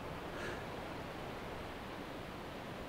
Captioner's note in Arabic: ضوضاء الرياح